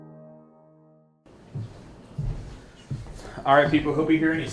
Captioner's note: golpeteo de pies